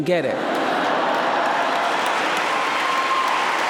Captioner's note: cheering